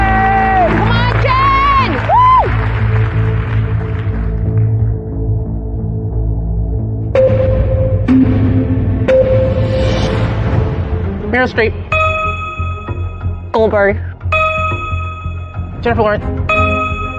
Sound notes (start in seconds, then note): 0.2 shouting; 2.7 tense music; 6.9 countdown sound effects